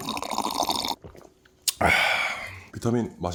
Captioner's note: swallowing vitamins